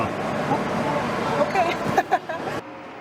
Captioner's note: chuckles